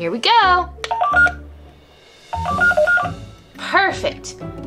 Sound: scanner beeping

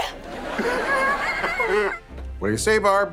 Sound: crying

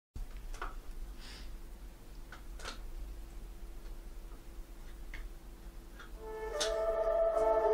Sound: tapping sounds

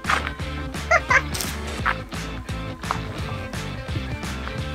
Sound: laughs

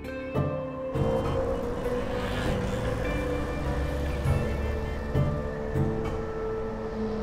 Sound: engines whir; horns honk

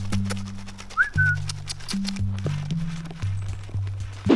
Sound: whistling

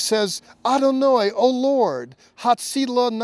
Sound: speaking Hebrew

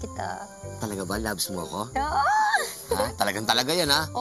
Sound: giggles

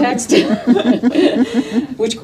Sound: all laughing

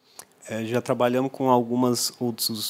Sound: non-english speech

